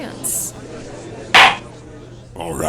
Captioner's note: gavel slams!